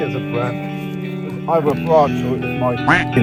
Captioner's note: quack